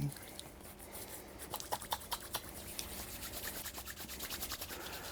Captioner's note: hands rubbing